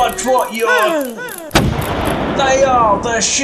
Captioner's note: boom!